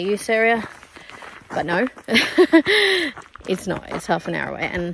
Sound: laughs

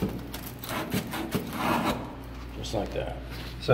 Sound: sandpaper scraping

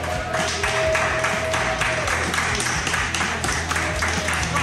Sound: crowd cheering

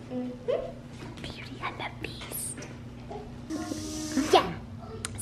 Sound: whispers

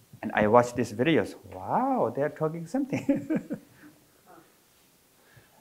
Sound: chuckles

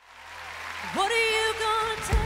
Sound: applause

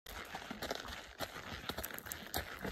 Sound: clip-clop clip-clop clip-clop clip-clop

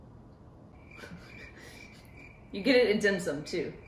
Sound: crickets chirping

